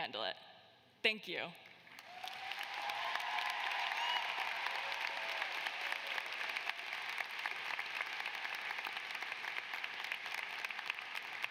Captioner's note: cheers and applause